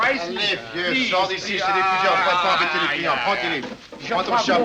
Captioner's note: arguing in French